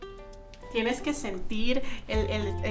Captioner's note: speaking Spanish